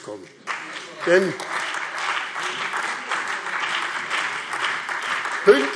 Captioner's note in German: Beifall BÜNDNIS 90/DIE GRÜNEN, CDU, AfD und Freie Demokraten